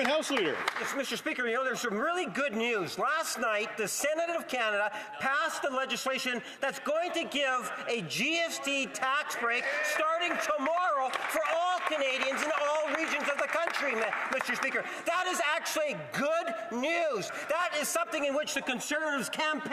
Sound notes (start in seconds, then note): 1.6 some Applause